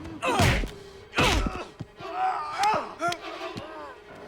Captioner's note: Knox and Dalton grunting; blows thudding